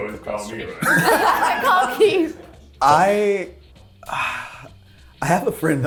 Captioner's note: cast laughing